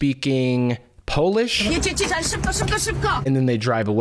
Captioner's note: woman speaking polish